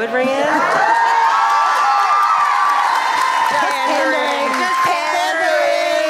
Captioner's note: applause cause lenaluthor